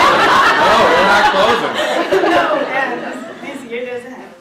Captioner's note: laughter